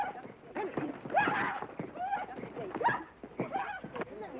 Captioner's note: laughing; Lucky whooping